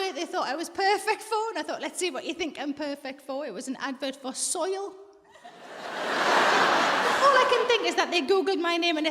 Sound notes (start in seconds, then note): 5.3 audience laughs